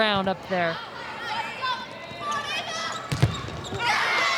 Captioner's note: players shouting indistinctly; ball thumping; audience cheering